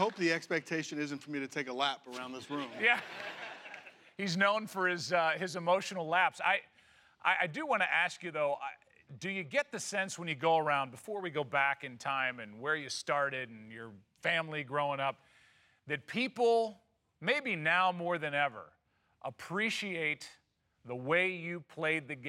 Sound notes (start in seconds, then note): 2.5 laughter